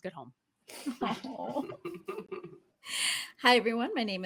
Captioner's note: all laugh